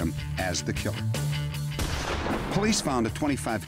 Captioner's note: gunshot